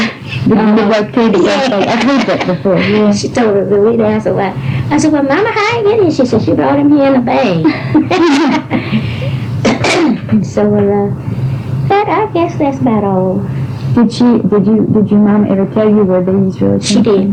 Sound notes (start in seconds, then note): 7.6 laughter